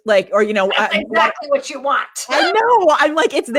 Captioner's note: laughs